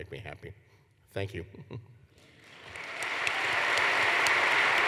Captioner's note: applause